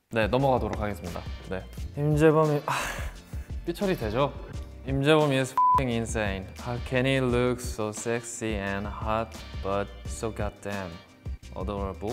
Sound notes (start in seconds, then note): 0.1 speaks Korean; 2.7 sighs; 3.7 speaks Korean; 5.6 beep